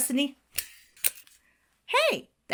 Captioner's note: stapler clicks